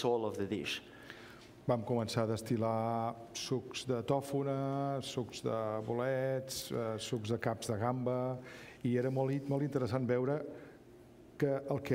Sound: speaking catalan

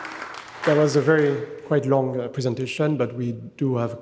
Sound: audience applauding

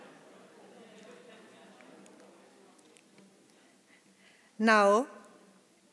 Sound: chatter continues softly

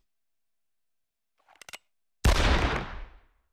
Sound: gun cocking

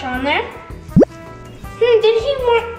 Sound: bloop noise

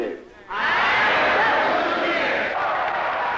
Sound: crowd

